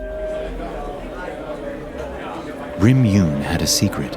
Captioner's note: crowd chattering